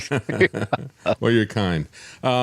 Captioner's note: laughing